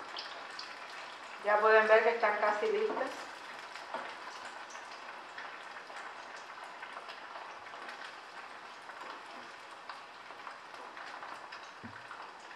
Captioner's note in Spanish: Crepitación